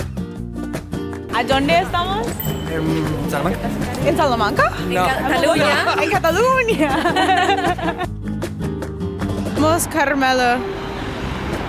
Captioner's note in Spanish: Risas